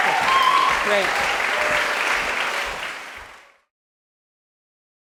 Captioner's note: applause